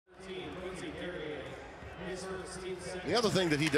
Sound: sports commentator announcing

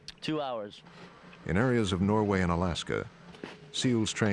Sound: voiceover

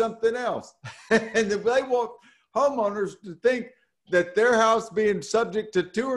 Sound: laughing

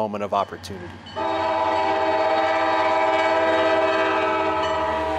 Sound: train whistle blares

